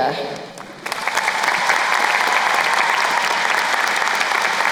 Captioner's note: crowd applauding